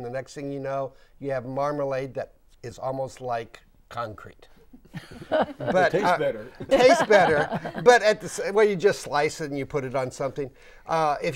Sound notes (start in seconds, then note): 4.9 laughing